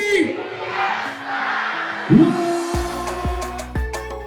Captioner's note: crowd screams in unison; upbeat music